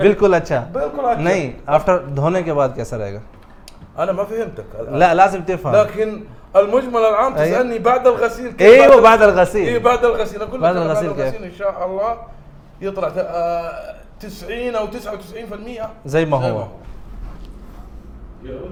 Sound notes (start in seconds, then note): 4.1 Arabic